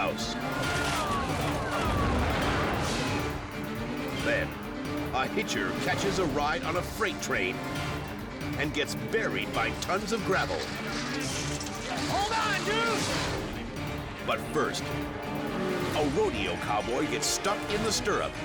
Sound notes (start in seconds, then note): 0.3 bystanders chatter; 2.5 air whooshes; 13.0 air whooshes